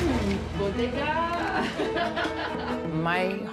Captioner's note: laughs